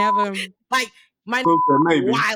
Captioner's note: beep; beep